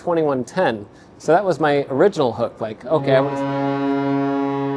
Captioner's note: goal horn intensifies